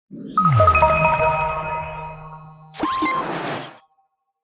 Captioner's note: electronic beeps